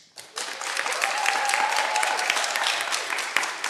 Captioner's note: cheering